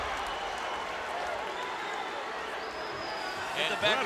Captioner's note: crowd cheers